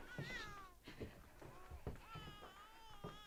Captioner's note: baby crying